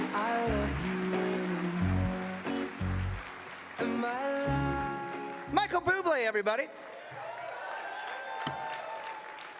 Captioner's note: cheering and Applause